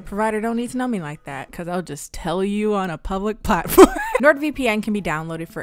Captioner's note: laughs